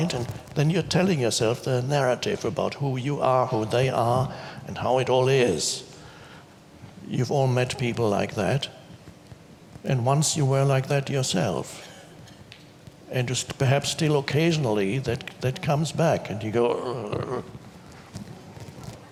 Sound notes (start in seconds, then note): 16.3 groans